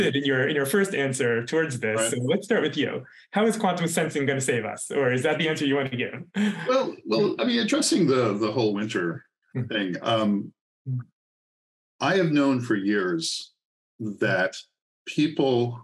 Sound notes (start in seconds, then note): 6.3 laughs